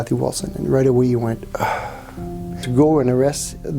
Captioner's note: sighs